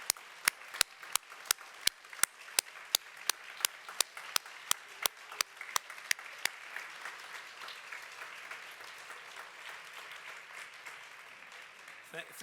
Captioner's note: applause